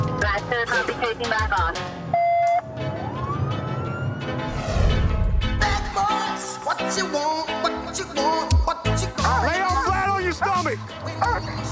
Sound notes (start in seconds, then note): 2.2 siren blaring